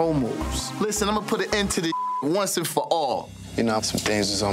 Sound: beep

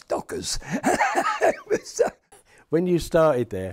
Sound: he laughs

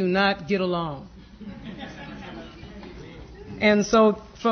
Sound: laughter

